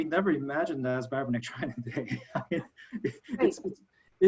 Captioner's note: laughing